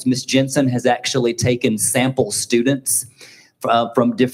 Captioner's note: none